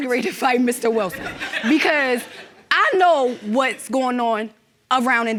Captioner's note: audience laughing